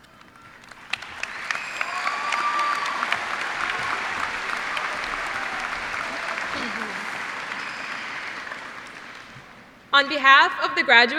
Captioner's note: cheers and applause